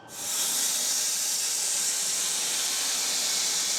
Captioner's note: saw whirring